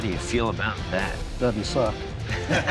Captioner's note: laughter